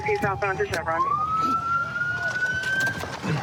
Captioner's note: sirens